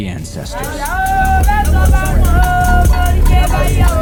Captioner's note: women chanting